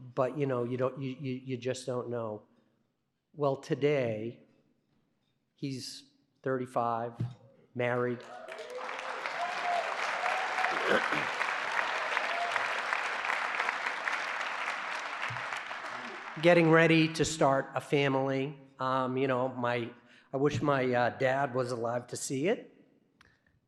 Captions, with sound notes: But you just don't know. Well, today he's 35, married. [APPLAUSE] Getting ready to start a family. I wish my dad was alive to see it